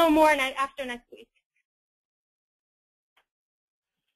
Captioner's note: silence